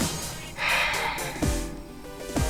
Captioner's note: sigh